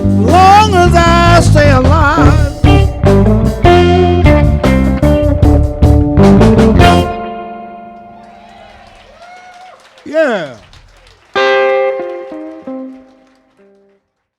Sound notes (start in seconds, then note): 8.0 audience cheering and applauding; 11.3 guitar strumming